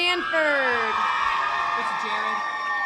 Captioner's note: audience applause